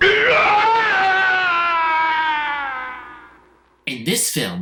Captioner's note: Lucifer screaming